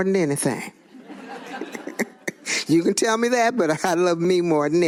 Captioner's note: laughter